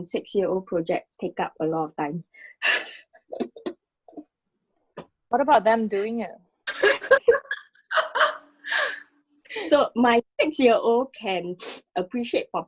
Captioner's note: laughs